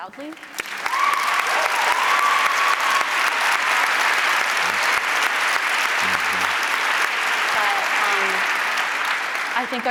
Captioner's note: applause